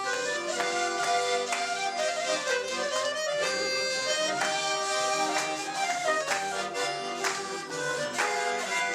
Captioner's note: applause